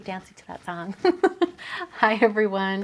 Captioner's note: laughing